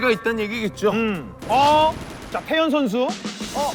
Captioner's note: firing shots